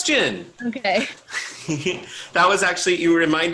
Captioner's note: chuckles